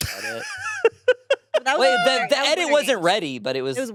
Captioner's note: laughing